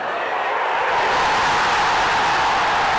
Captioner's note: crowd cheers